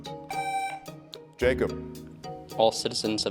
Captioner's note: tone sounds